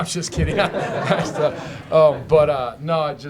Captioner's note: laughter